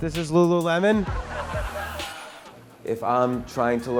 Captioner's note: audience laughing